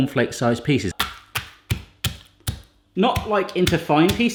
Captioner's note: corn flakes crunching